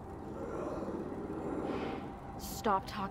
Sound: demon growls

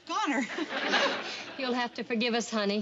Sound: audience laughing

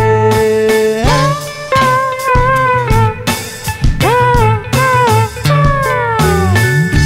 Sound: vocalizing

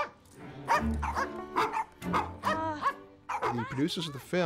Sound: all barking

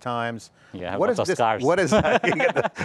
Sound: laughs

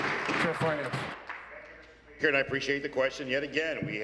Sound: applause

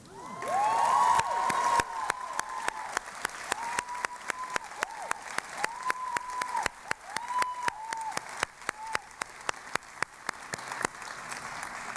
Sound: cheering and Applause

